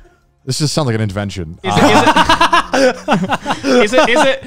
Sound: co-hosts laugh

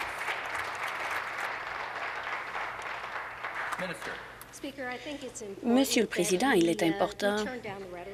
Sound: applause

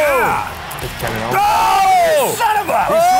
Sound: screams

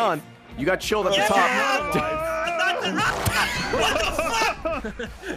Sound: fricking dies of laughter

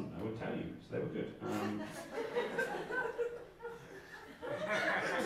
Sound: audience giggling

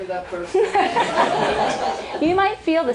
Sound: laughter

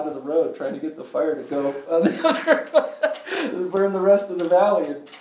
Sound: laughs

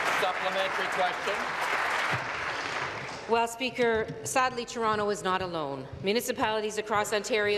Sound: applause

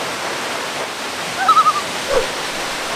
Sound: loon call

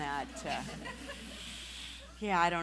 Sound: laughing

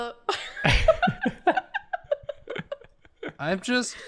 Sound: laughter

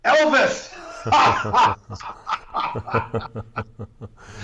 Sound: laughing

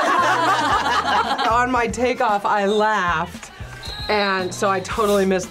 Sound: group laughs; whistle blows

